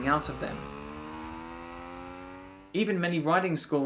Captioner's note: bike revving